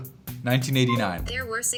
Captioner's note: phone chiming; voiceover